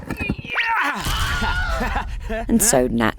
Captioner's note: man screams